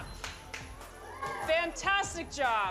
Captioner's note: boxers cheering